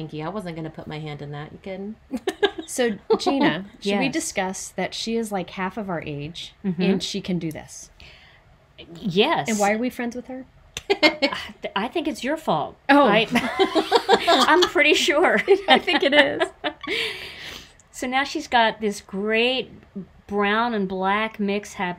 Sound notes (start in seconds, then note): 13.4 everybody laughs